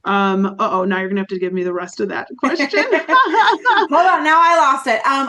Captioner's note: laughs